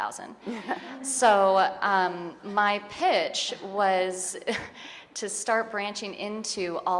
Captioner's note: chuckles